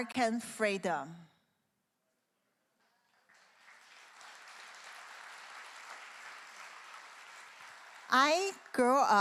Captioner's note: clap